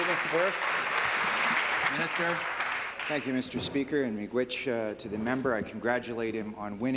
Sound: applause

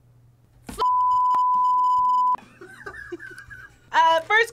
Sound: laughs

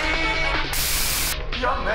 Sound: white noise

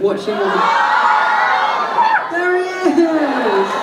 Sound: audience cheering

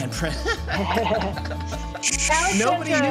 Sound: laughter

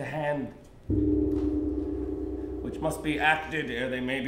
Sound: bell rings

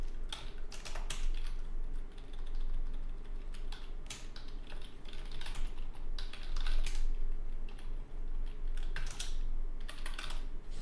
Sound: typing sounds

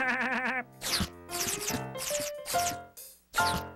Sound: laughing

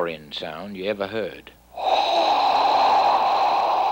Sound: exhaling

